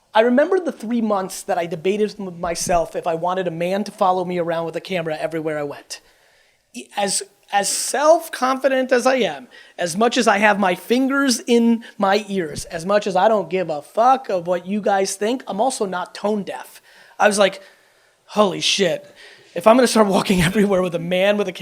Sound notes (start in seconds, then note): 18.5 audience chuckles